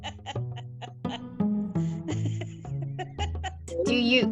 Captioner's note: woman laughing